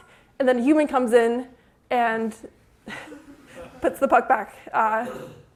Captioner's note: laughter